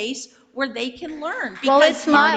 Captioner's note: audience applauds